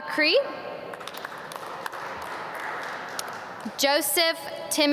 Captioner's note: audience clap